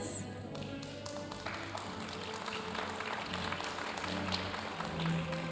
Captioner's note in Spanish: aplausos de la audiencia